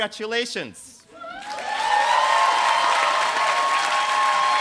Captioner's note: applause